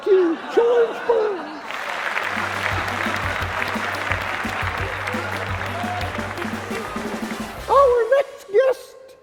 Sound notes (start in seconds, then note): 1.7 clapping